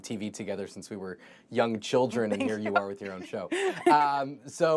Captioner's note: laughter